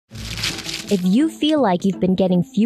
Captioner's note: crunching